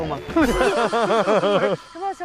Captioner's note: hahaha